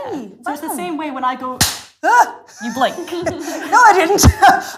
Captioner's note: claps hands